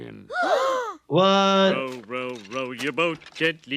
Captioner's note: gasps